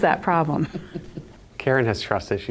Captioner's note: group chuckles